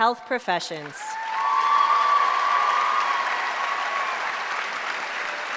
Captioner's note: applause